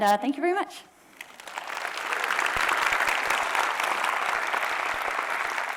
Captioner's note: audience applauding